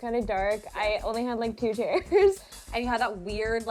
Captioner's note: laughs